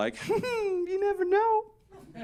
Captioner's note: giggle giggle